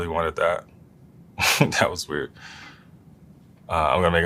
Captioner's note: laugh